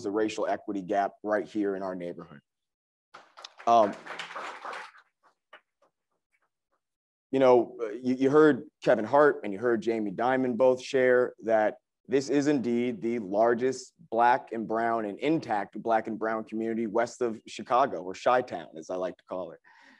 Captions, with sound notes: the racial equity gap right here in our neighborhood. (crowd applauds) - You know, you heard Kevin Hart and you heard Jamie Dimon both share that this is indeed the largest Black and brown and intact, Black and brown community West of Chicago. Or Chi-town as I like to call it.